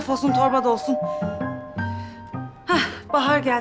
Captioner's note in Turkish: Kapı zili çalıyor